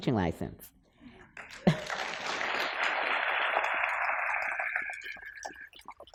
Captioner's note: applause